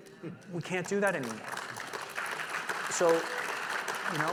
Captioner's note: audience applauding